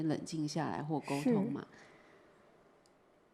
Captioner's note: Mandarin